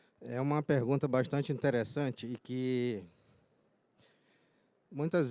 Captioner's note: speaking in foreign language